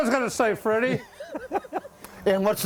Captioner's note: laughter